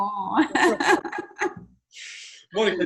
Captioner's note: laughs